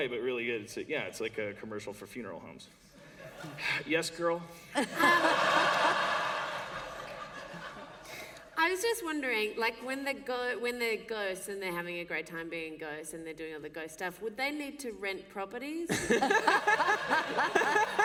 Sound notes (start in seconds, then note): 4.7 laughter; 15.9 laughter